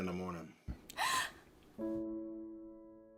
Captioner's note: gasping; melancholic music